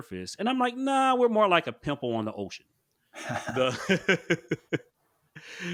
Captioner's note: laughs